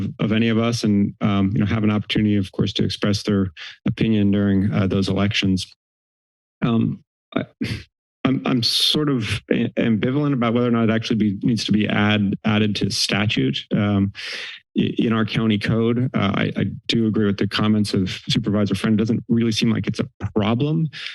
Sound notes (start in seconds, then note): 7.4 chuckle